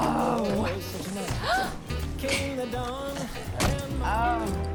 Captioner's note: gasps